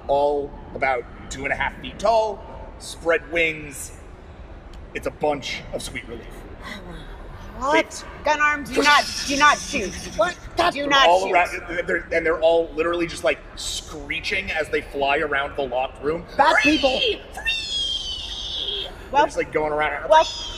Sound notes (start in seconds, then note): none